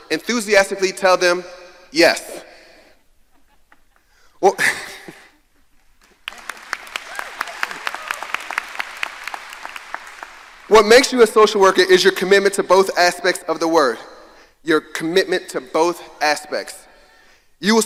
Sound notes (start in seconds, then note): 3.2 laughs; 6.0 audience applauding